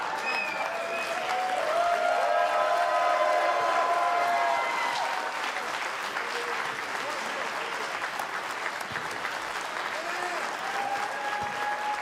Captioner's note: cheers and applause